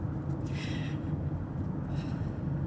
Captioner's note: Olivia breathes heavy